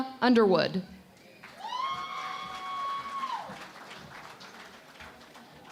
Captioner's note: cheering and Applause